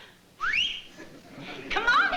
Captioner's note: whistling